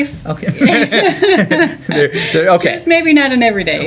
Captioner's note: laughter